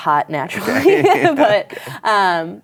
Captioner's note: laughter